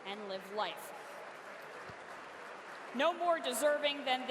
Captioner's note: audience applauds